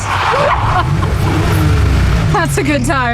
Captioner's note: laughing